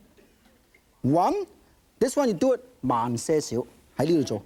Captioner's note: speaking in foreign language